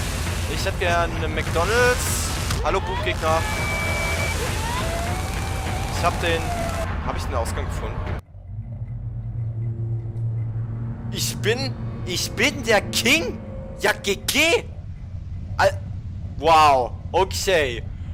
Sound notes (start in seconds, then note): 3.3 weird glitchy sounds; 6.0 surprised